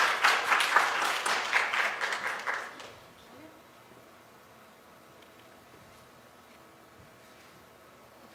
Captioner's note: applause